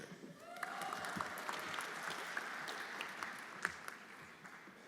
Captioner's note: everyone applauding